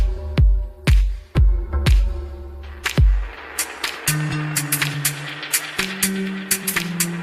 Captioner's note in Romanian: Aplauze